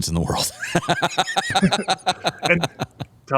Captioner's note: laughter